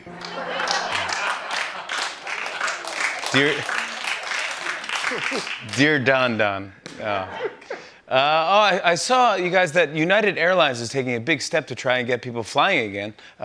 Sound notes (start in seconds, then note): 0.0 laughter and applause; 7.0 laughter